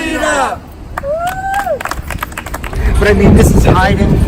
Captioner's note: cheers